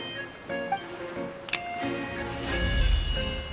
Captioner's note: snap!